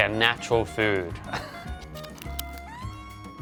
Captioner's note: chuckles; upbeat music